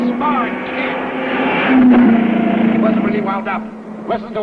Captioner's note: car revving